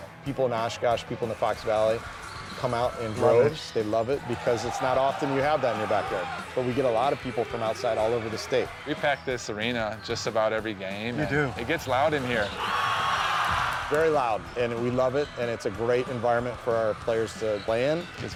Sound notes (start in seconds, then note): 11.0 crowd cheering